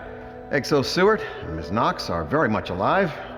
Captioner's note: speaking on PA System